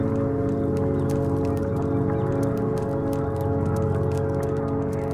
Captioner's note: tranquil music; birds singing